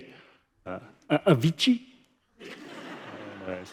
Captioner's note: laughter